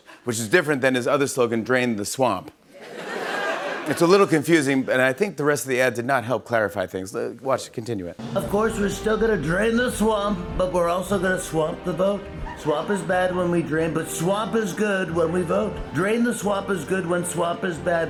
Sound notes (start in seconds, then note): 2.7 laughter